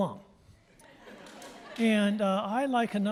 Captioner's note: audience laughing